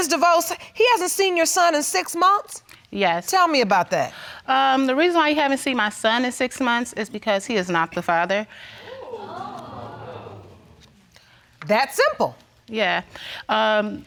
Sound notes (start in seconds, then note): 9.3 gasps